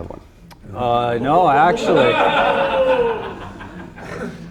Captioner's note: audience laughs